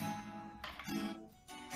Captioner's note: strumming sounds; sound of dropping the kid's toy